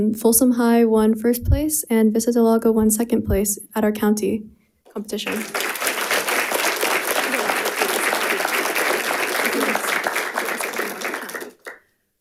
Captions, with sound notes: Folsom High won first place and Vista Del Lago won second place at our county competition. (audience applauding)